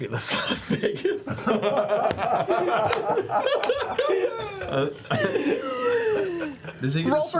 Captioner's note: laughter